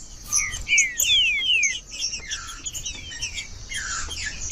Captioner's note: trinca ferro cantando